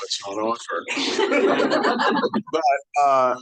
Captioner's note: audience laughing